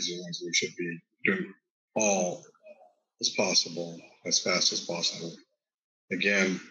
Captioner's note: murmurs